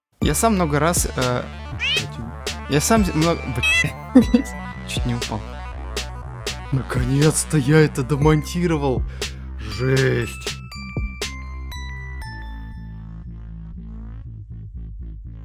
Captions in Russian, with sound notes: Я сам много раз ээээ... *мяу* Я сам мно... *мяу* хе-хе, чуть не упал Наконец-то я дописал субтитры! Жесть...